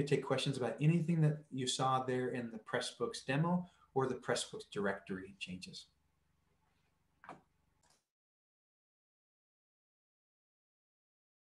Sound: silence

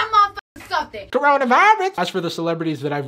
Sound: imitating Cardi B

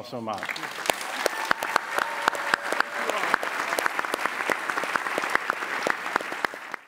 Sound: applause

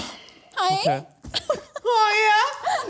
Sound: chuckling

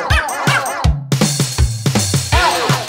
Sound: epic bork solo

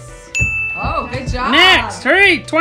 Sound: bell rings

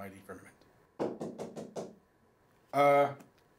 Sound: knocking

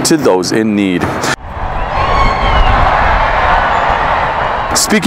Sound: crowd cheering

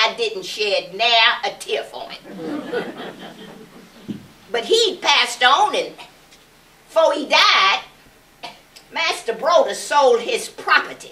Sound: laughter

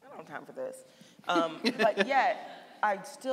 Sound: laughing

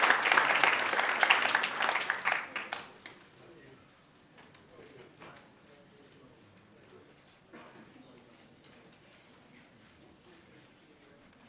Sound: applause

